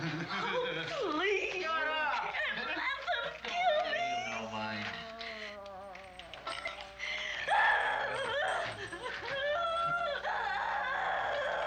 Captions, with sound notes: - Oh, please, you can't let them kill me. - Shut up. Don't pay him no mind. (sobbing)